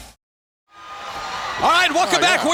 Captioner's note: crowd cheering